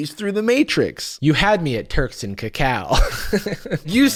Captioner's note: laughs